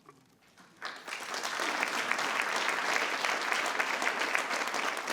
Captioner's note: audience applauds